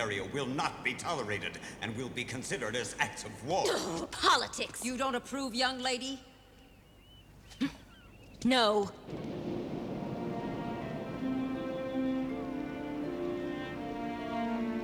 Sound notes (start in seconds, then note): 3.7 exclaims; 7.5 grunts